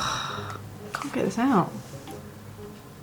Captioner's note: sigh